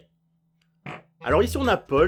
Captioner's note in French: Bruit de pet